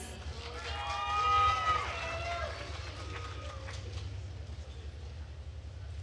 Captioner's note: attendees cheering and applauding